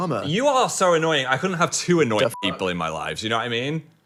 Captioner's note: beep